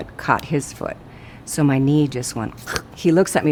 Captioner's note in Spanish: Crujido